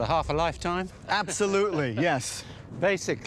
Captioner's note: laughs